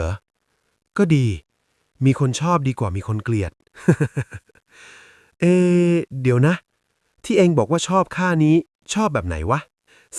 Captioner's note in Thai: เสียงหัวเราะ